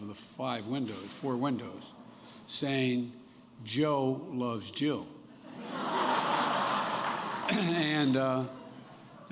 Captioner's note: laughter